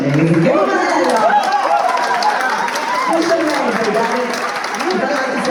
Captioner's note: cheers and applause